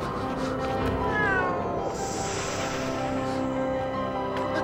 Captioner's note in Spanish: gato maullando